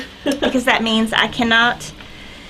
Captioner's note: laughs